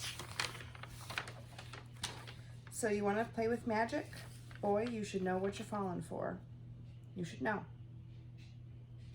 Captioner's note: papers rustling